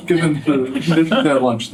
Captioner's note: laughter